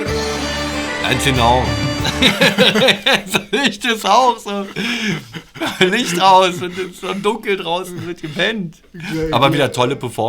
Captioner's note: laughter